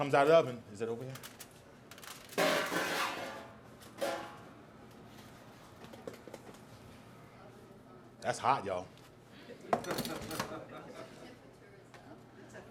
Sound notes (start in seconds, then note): 3.9 pots clang; 9.4 audience laughs